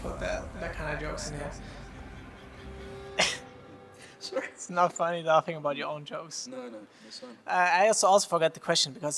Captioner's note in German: lacht